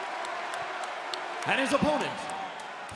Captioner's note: crowd cheering